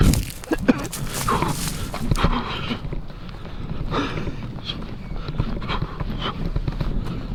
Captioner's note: Ruggiero footsteps and frantic breathing in a desperate run